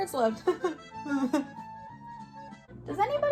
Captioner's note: laughs